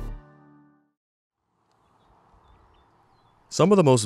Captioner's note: birds chirping